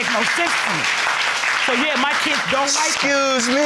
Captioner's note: applauding